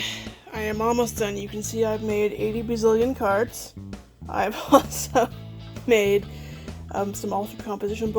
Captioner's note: laughing